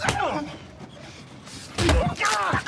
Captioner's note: slap; punch; shouting